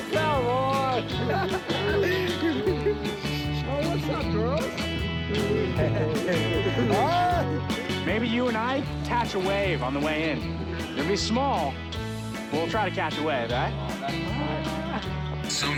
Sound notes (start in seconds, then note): 0.8 laughs; 5.4 chuckles